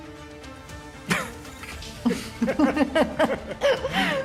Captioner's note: both laugh